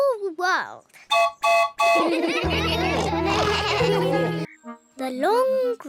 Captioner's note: toots horn; all laugh